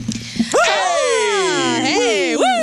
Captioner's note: cheering